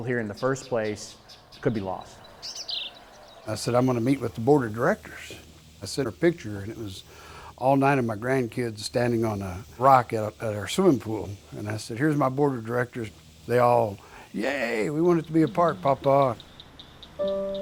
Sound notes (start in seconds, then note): 2.6 chicks tweeting